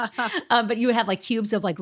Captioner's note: laughs